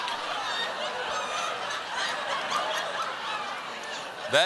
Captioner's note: laughter